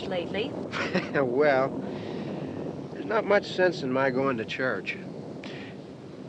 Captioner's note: chuckles